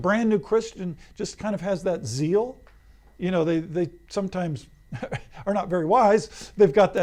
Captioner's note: laughs